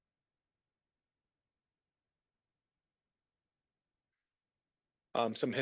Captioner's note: silence